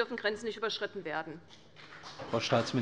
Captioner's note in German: Beifall bei der CDU und dem BÜNDNIS 90/DIE GRÜNEN